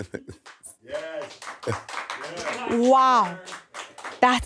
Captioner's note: crew applauding